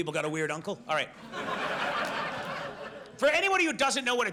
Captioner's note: audience laughs